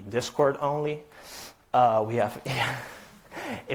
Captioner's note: chuckles